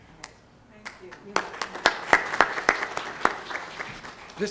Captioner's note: applause